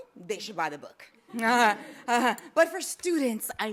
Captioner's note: laughs